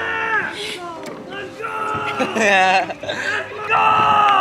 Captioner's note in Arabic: يضحك